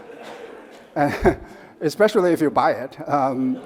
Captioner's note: audience laughs; chuckles